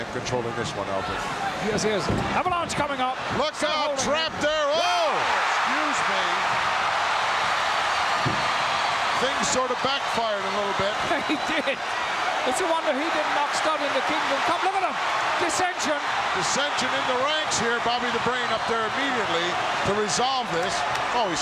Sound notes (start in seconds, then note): 5.6 audience cheering; 10.8 laughs